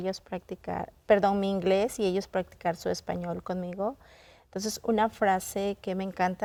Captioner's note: continues speaking in Spanish